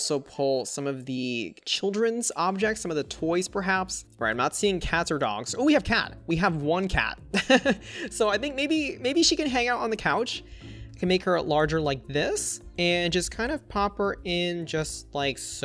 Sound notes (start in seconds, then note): 7.4 laughs